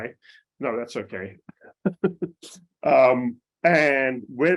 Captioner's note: chuckles